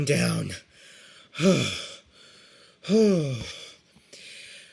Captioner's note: sighing and panting continues